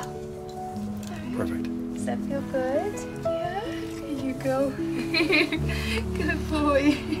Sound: laughter

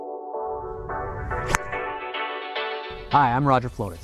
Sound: slow music; whooshing sound

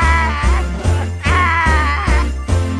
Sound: crying

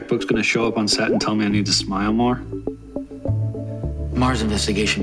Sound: inner monologue

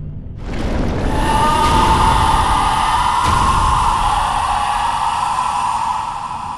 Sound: screaming

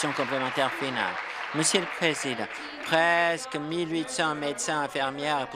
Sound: applause

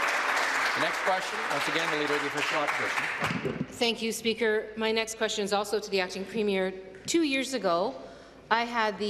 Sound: applause

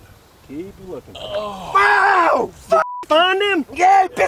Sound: yelling

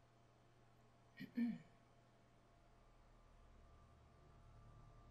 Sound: clearing throat

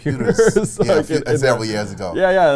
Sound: laughs

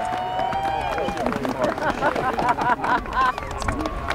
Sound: people cheering and clapping

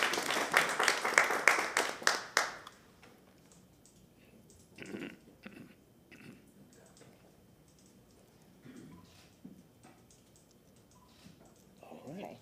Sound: applause

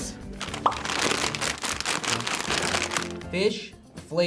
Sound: bag crinkles

